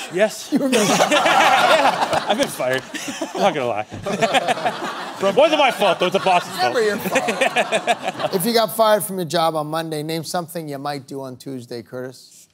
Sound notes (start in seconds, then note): 4.0 laughing